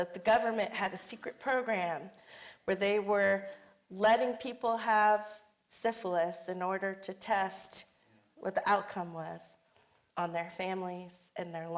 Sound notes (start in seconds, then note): none